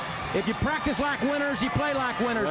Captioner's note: crowd cheering